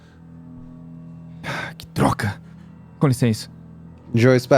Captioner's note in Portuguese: Suspiro